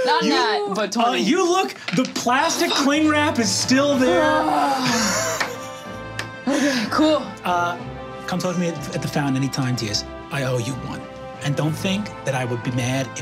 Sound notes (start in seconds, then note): 4.2 sighs